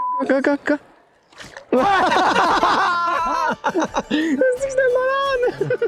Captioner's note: laughing